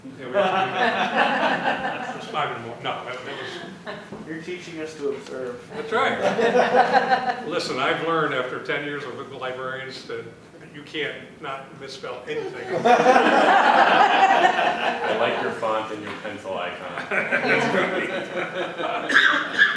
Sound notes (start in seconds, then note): 0.3 laughter; 12.5 laughter; 16.9 laughter